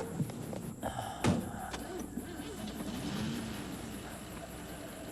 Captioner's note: dogs barking; Joe gasping